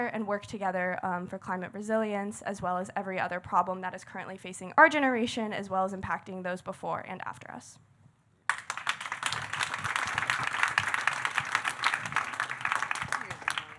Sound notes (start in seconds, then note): 8.4 audience clapping